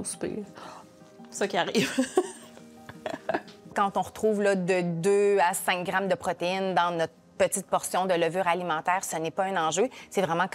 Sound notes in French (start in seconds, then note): 2.9 rire